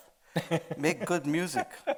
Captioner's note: laughing